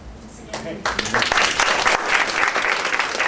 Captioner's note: applause